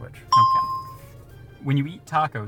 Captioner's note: bell rings